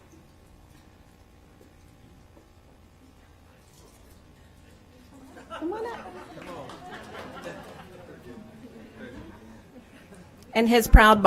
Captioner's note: applause